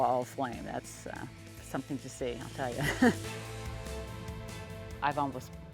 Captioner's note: laughing